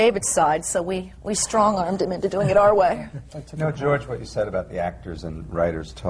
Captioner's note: laugh